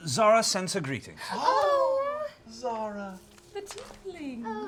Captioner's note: dreamily